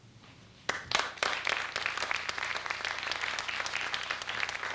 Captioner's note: applause